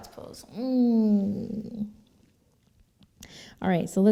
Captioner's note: relaxed moan